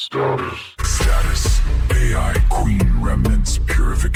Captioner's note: robotic system announcer